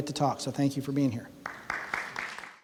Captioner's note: applause